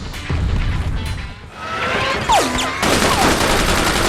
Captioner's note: game audio